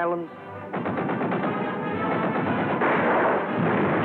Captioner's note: gunfire